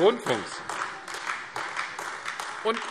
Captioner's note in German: Beifall AfD